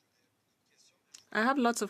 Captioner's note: speaking French